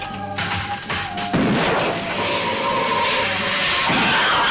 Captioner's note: gun firing